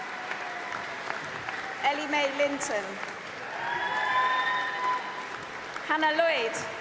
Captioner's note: cheering; applause